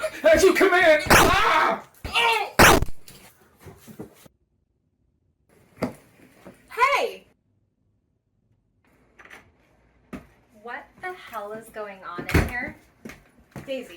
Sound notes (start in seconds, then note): 1.1 Tuatara groans; 2.6 gun fires